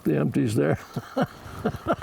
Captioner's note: laughs